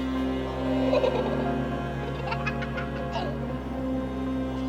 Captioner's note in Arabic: ضحك طفل صغير